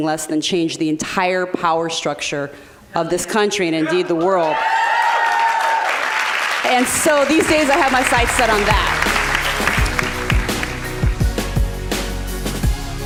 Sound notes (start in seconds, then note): 4.9 applause; 8.6 rhythmic drum beat